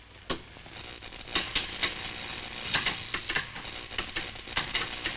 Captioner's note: computer crackling